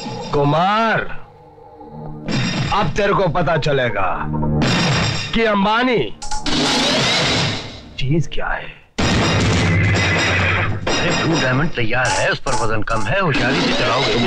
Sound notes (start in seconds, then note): 9.7 horses - Whinny